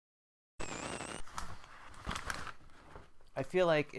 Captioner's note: static